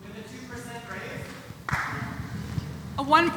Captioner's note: applause